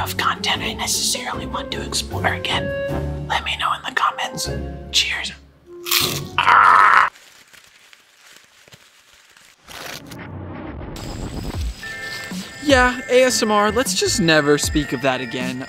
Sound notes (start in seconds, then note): 5.8 crunching